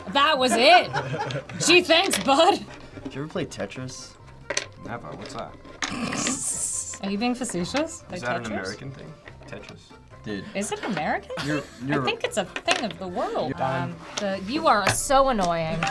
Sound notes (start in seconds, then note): 5.7 snickers; 5.8 snorts